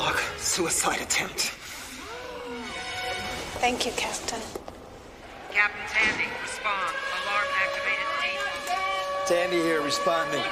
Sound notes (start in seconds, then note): 8.4 alarm wailing